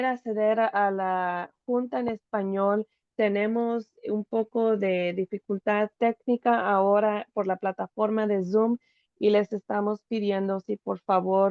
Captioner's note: Spanish